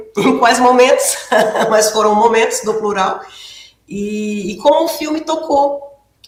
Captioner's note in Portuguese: risadas